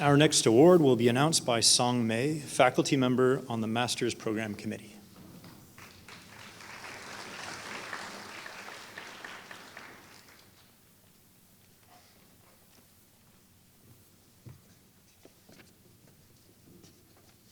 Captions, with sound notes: Our next award will be announced by Song Mei, faculty member on the Master's Program Committee [Applause]